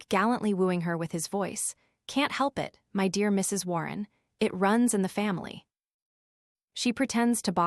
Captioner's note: turning on him with a sharp note of alarm in her voice